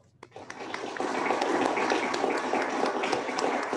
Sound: applauding

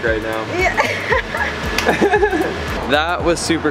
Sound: all laughing

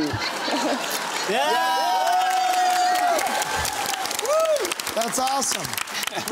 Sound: cheering and applause

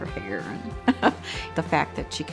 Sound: laughing

